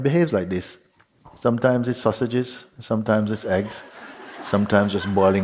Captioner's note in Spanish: Risas